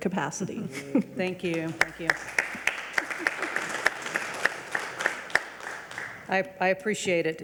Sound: regents and audience applaud

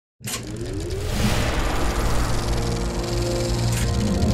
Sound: film projector clattering; dramatic orchestral music

